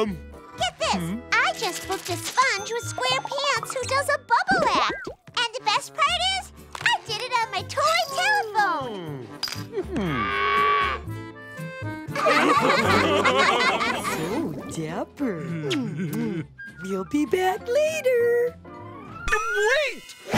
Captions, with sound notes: Get this. I just booked a sponge with square pants who does a bubble act. And the best best is, I did on my toy telephone. [mooing] [laughing] So daper. [giggling] You'll be back later. Wait!